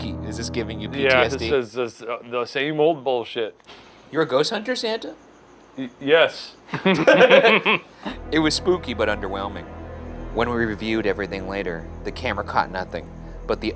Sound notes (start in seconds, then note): 6.7 laughing